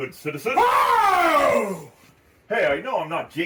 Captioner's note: Stanley screaming